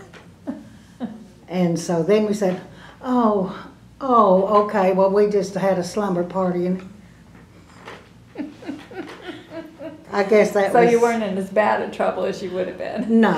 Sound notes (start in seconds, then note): 6.8 laughter